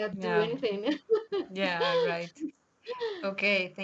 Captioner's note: chuckles